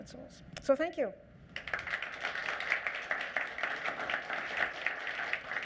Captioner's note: applause